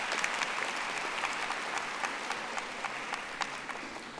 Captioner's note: audience applauding